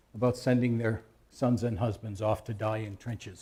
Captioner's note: none